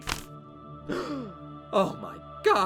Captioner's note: gasps